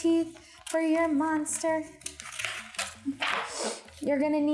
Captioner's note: paper crunching